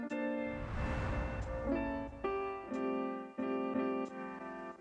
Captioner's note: logo whooshes